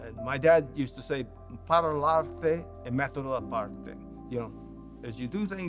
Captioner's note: speaking Italian